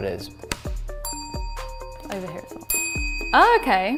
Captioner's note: bell dings